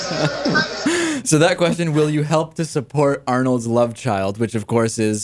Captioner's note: laughs